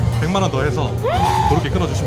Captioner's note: gasps